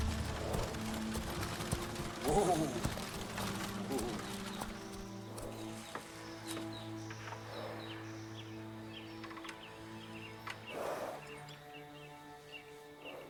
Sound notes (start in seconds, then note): 0.3 birds chirping; 0.3 curious music; 6.0 birds chirping; 6.0 curious music